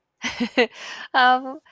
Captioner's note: chuckles